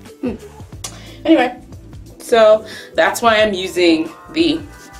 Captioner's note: smacks mouth